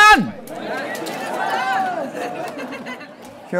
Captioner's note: shouting; laughing